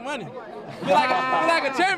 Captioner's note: laughter